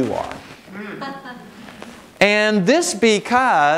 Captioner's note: audience laughing